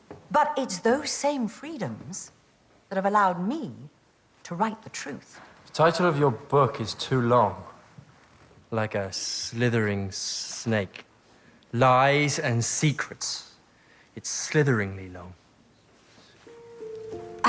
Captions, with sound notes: But it's those same freedoms that have allowed me to write the truth. The title of your book is too long. (SLURS) Like a slithering snake. Lies And Secrets. It's slitheringly long.